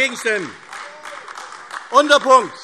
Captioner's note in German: Beifall AfD